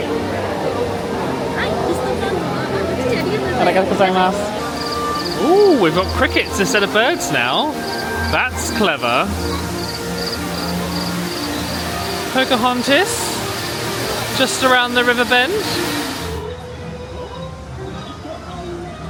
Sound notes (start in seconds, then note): 1.6 cast member speaking Japanese; 4.5 crickets chirping; 9.2 crickets chirping; 16.3 light music